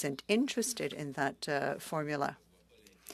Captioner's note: speaking French